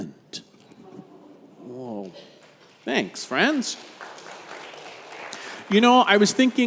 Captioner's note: congregation applauds